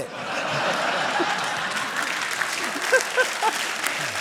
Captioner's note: laughter and applause